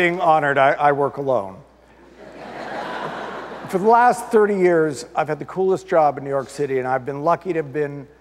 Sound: audience laughter

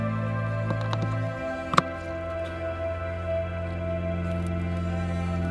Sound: plug clicking

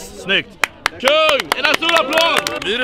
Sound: applauds

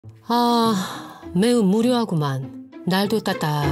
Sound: sigh

